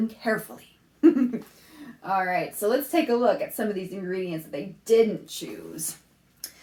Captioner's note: laughs